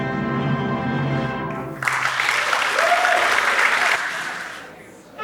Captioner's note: applause